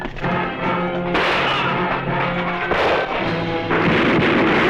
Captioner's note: gunfire